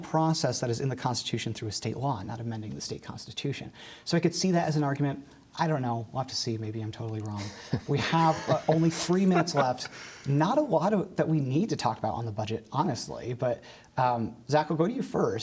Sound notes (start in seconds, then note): 7.4 laughter